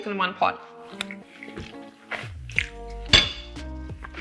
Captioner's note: chews food